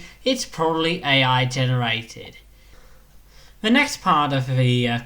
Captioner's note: none